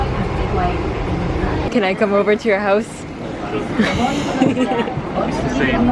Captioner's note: giggle